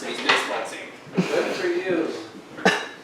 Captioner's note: dryly; assistant thinking, footsteps